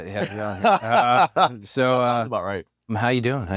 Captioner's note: laugh